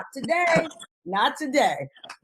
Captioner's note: laughs